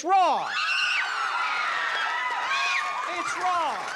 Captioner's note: screams